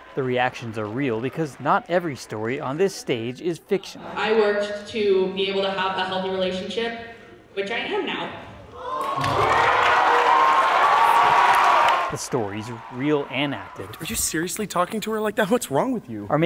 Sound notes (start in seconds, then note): 9.1 applause